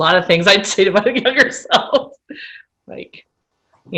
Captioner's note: laughter